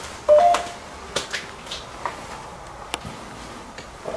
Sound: ghost tube warning sound

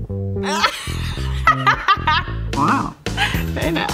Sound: laughs

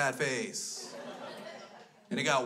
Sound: crowd laughs

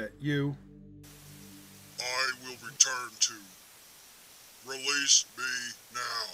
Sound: Static

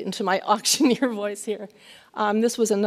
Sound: laughs

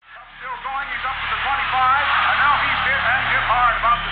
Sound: radio Broadcast playing a football game

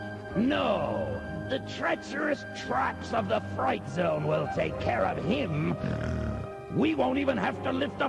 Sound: snort

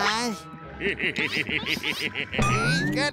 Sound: laughing

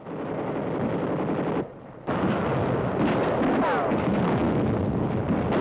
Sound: machine guns firing and bombs exploding

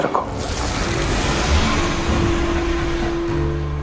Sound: sound effect playing

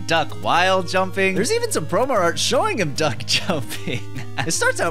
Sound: laughs

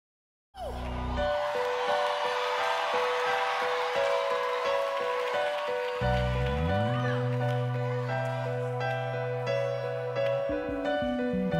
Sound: applause

